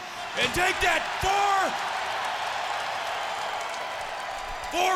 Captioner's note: crowd cheering